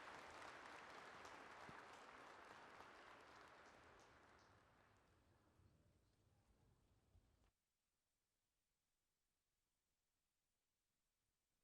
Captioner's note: cheering and applause